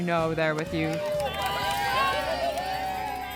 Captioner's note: cheering